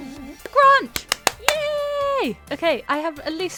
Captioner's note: claps